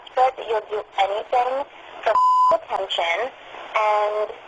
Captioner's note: beep